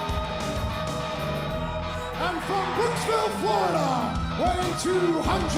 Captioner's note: crowd cheering